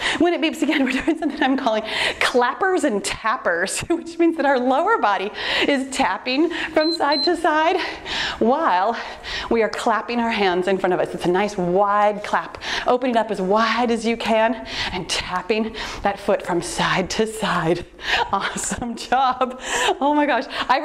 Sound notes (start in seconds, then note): 6.8 timer beeps